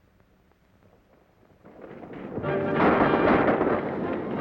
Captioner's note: gunshots